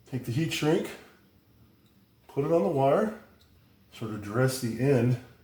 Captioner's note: none